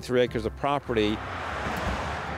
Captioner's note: car rumbles